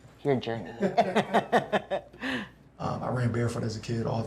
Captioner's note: group laughs